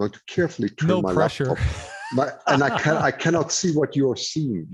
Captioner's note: laughs